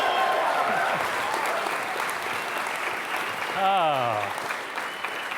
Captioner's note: applause